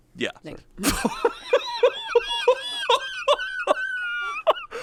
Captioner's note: laughs